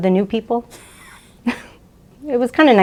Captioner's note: chuckle